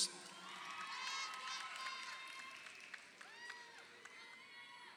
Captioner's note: crowd cheering